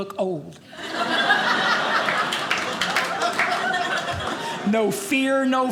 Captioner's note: audience laughing